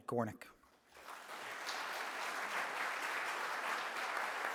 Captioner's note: clapping